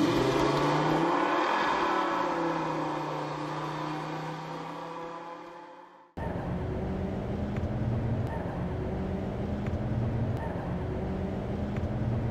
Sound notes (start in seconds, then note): 0.0 vehicle accelerates away; 6.9 ambient city noises